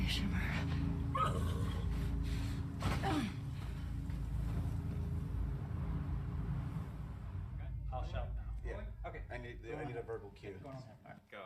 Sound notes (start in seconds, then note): 1.2 horse neighs; 2.5 groans